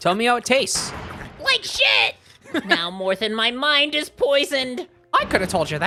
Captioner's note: Spongebob voice; slurping noises